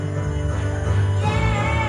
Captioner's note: applause